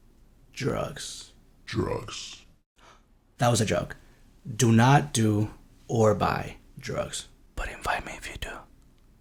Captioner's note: whispering